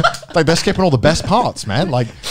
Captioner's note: laughs